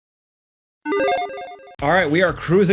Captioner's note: logo chiming